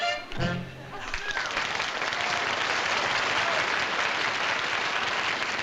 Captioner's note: applause